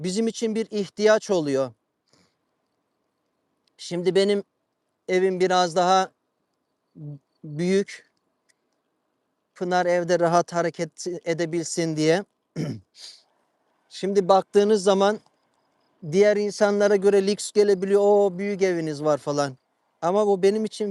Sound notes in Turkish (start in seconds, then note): 12.5 boğazını temizler; 12.6 homurdanır